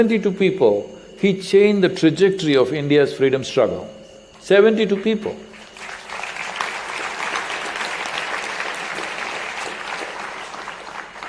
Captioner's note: applause